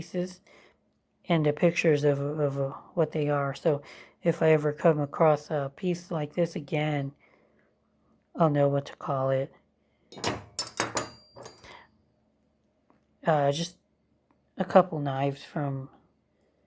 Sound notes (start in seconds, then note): 10.2 clunk, clank